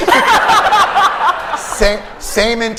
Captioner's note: laughter